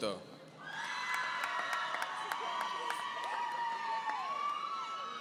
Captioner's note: audience cheering